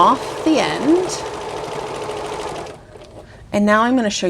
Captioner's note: sewing machine whirring